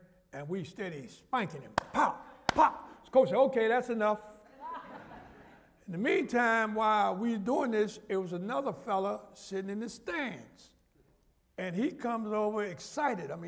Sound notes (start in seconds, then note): 4.5 laughter